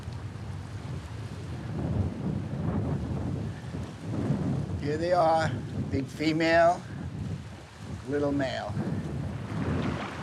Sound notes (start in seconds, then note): 1.5 wind blowing